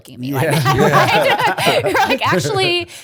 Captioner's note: laughter